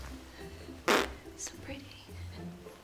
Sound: silly noises

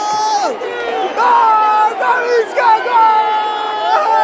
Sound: clap

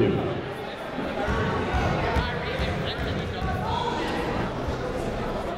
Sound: people talking in the crowd

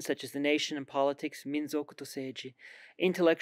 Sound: speaks in foreign language

